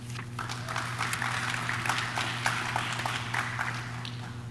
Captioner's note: audience claps